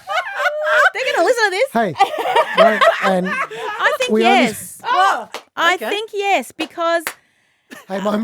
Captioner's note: laughing